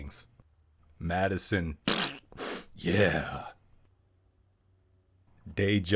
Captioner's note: fart sound